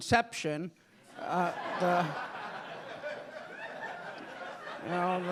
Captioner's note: audience laughing